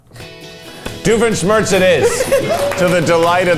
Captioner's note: crew laughing